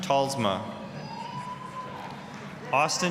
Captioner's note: applause, cheering